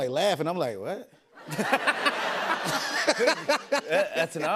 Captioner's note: laughter